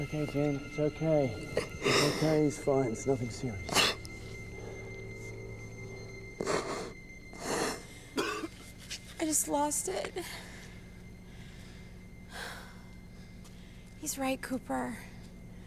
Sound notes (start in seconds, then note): 1.5 Jen sobs; 6.4 continues sobbing; 9.1 weepy voice; 12.1 exhales deeply